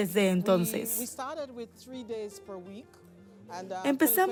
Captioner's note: Hablando idioma extranjero